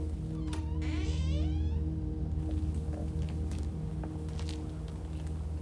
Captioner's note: door hinge creaking; dramatic music